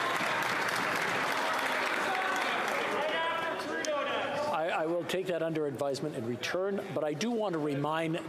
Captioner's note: applause